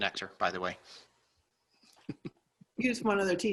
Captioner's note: laughing